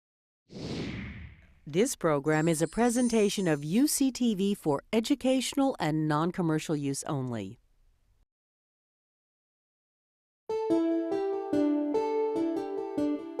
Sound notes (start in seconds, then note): 0.5 whooshing; 10.5 bright music